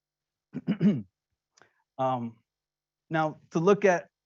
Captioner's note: clearing throat